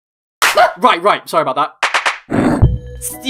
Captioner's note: startled sound